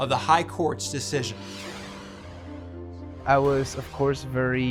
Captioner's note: soft tense music; graphics whoosh